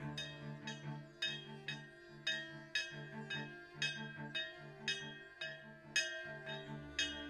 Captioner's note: bell tolling; tense orchestral music